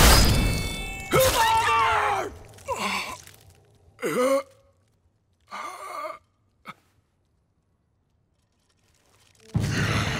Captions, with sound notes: -Father! -Splinter! [groaning]